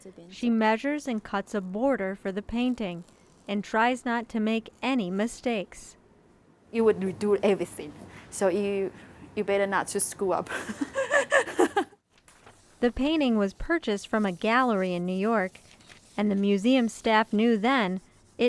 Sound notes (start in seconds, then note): 10.5 laughing